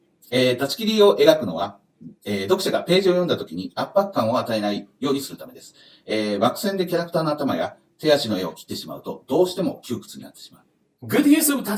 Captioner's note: speaking Japanese